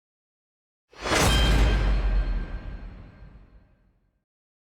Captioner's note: sword striking